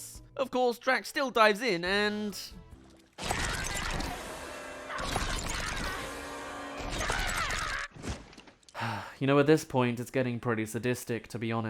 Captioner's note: sigh